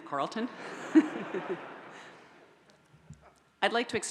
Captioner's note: audience laughs